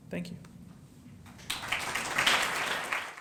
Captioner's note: applause